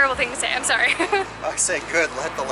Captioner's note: chuckling